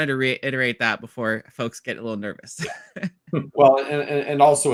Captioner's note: laughs